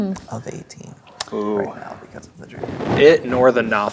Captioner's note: speaking quietly